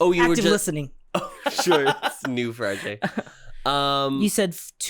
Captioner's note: giggles